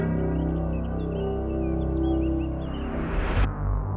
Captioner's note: birds chirping; suspenseful music